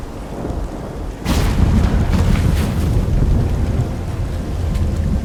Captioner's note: portal rumbles